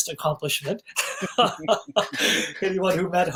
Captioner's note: laughing